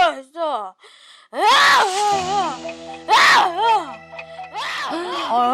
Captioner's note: he starts screaming